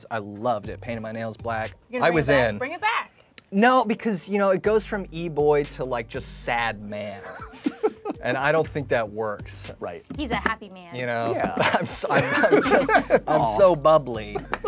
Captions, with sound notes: I loved it. Painted my nails black. - You gonna bring it back? - I was in. - Bring it back! - No, because you know, it goes from E Boy to like just sad man. (both laughing) And I don't think that works. - Right. - He's a happy man. - You know? - Yeah. - I'm just, (all laughing) I'm so bubbly.